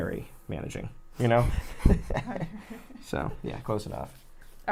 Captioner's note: laughs